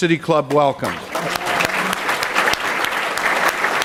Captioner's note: applause